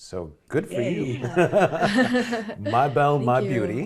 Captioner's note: laughs